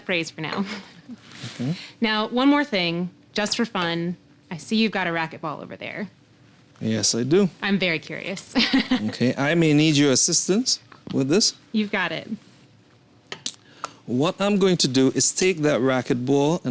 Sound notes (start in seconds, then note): 8.6 chuckles